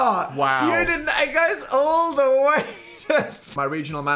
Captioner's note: laughing